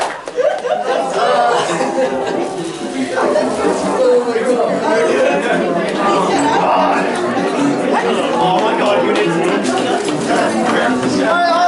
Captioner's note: crowd chatter